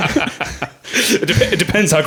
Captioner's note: laughing